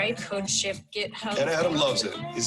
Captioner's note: murmurs